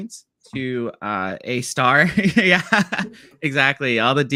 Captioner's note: laughs